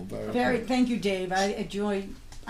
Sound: voiceover

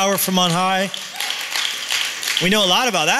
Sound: applause

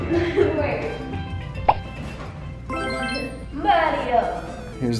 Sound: laughs

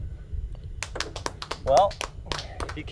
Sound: applauds

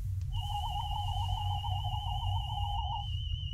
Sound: medical scanner hums

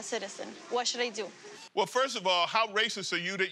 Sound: none

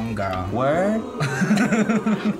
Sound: crowd oohs; both laugh

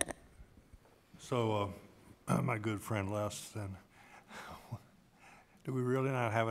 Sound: chuckle

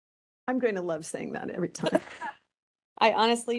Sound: laughing

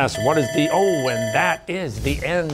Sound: bell ringing

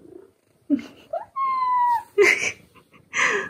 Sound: meow

